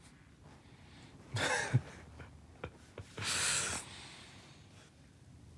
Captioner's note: chuckling